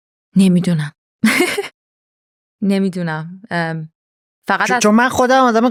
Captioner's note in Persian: خنده